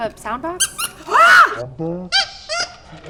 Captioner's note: squeaks; screams; replays squeak and scream in slo mo